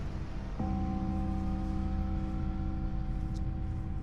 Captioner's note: sound of church bell